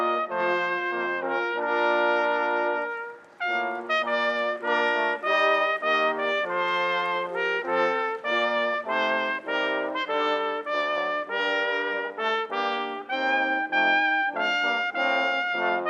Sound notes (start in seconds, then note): 5.0 audience applauding; 8.4 gentle music